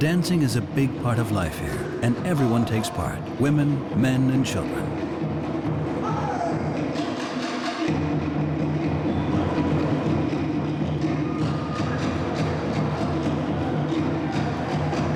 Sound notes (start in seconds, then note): 5.7 drumming continues; 5.7 man shouts